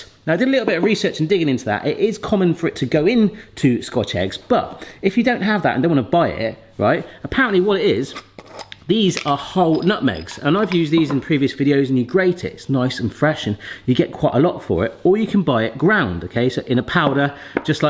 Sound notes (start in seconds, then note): 9.6 lid grinding; 9.6 nutmegs clanking